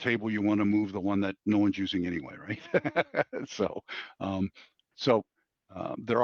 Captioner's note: laughs